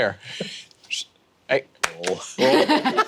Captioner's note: whistles